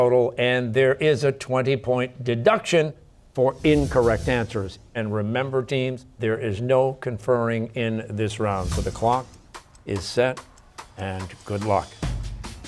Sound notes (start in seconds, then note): none